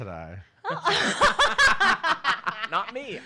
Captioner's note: everyone laughs heartily